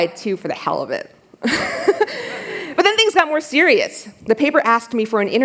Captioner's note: laughter